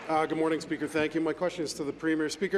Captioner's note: applause